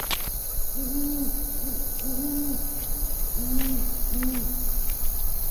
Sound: hooting

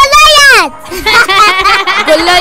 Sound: laughter

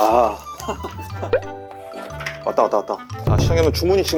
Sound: ringing🔔

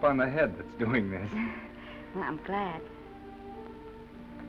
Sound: Esther chuckles

